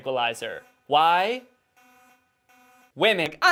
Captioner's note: uncomfortably long pause